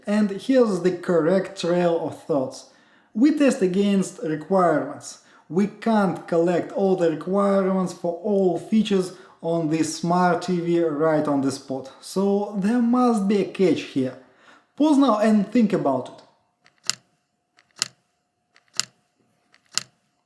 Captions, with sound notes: And here's the correct trail of thoughts. We test against requirements. We can't collect all the requirements for all features on this smart TV right on the spot. So, there must be a catch here. Pause now and think about it. (timer clicking)